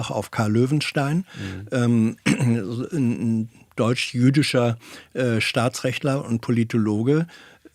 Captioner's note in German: räuspern